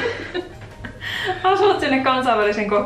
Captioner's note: giggles